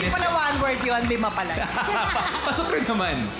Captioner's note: laughter